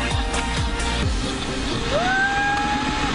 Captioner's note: screaming